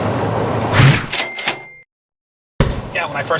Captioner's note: cha-ching